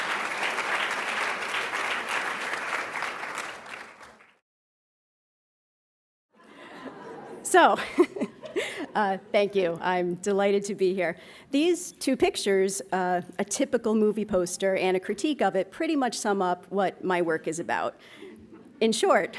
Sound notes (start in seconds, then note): 4.1 applauds; 7.8 laughs; 19.2 laughs